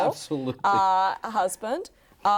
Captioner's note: chuckles